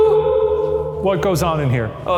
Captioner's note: voice echoing